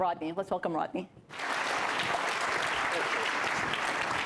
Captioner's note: applause